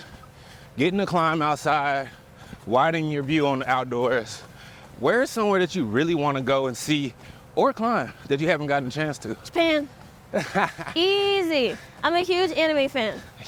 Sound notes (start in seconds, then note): 10.2 laughs